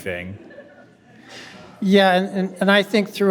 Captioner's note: attendees laughing